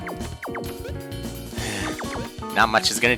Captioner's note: sigh